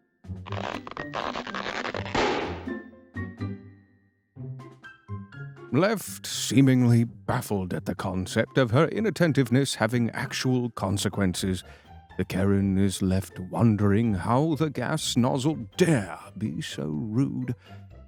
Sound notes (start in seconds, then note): 0.4 nozzle breaking